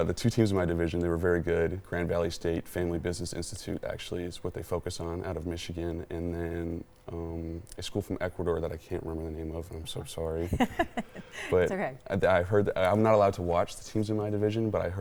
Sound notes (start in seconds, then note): 10.5 laughs